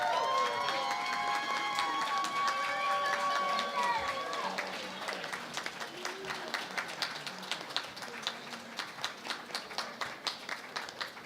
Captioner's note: cheering and Applause